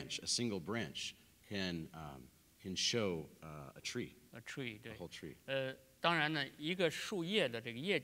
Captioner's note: speaking in Chinese